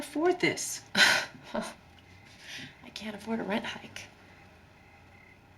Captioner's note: scoffs